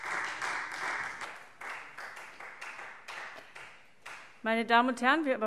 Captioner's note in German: Beifall Freie Demokraten